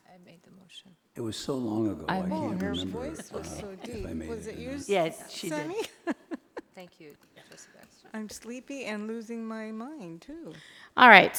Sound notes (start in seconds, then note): 5.2 overlapping chattering